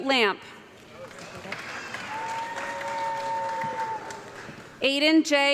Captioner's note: audience clapping